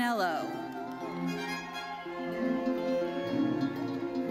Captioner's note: audience cheering; lively uplifting music continues